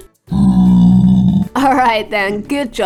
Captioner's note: grunting